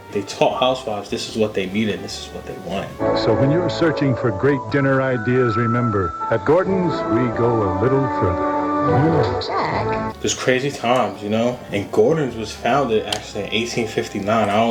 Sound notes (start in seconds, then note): 3.2 commercial Voice; 8.3 voice fades